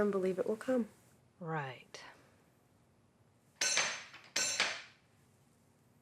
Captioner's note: door knocker clanking